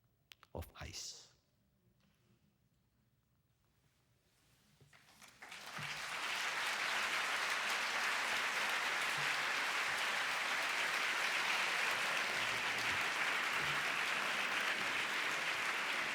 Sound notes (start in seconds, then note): 5.2 audience applause